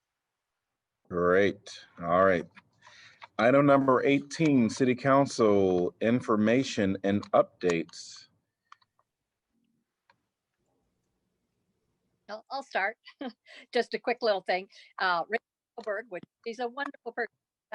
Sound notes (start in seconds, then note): 13.0 laughter